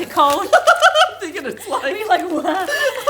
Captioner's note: both laugh